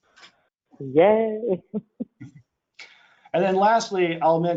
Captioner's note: laughs